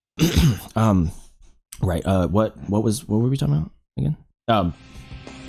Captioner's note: ahem